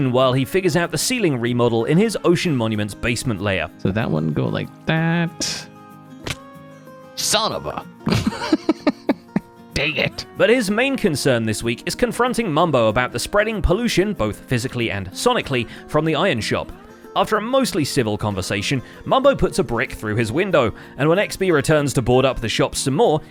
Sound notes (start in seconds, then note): 6.1 falls; 8.0 laughs